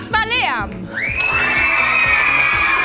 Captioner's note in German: Lautes Jubeln